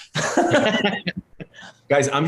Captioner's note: laughter